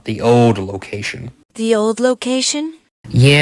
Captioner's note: curiously